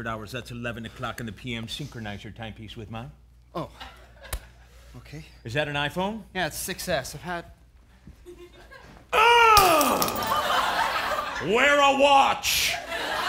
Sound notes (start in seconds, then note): 9.5 grunts while throwing phone